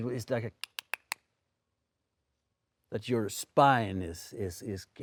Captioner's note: clicking tongue